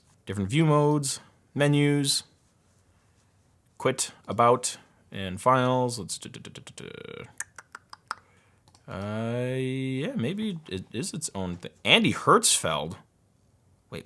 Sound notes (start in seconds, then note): 7.0 clicking